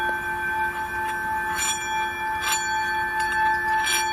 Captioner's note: ringing continues